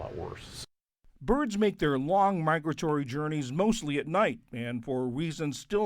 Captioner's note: voice-over